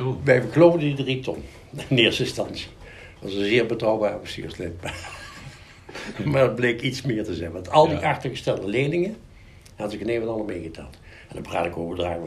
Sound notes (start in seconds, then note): 4.8 laughter